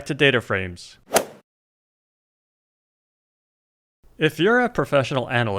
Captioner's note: golf swing sound effect